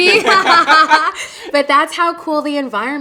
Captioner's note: both laughing